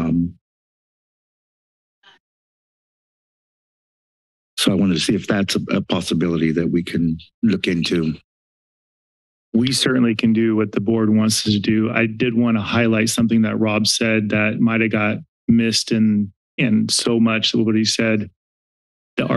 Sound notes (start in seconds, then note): 0.1 silence; 8.2 silence